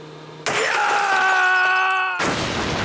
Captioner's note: screaming